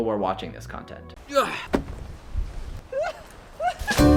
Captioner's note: grunts; instrumental music